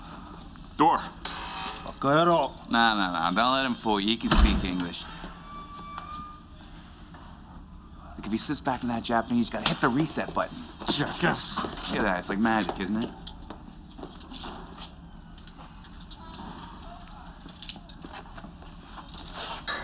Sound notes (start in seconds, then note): 1.2 speaking Japanese; 1.2 door buzzes